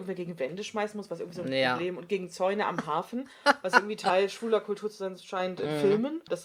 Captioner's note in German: lacht